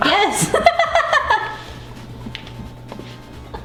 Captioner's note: laughs